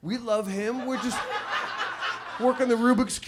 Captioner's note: audience laughs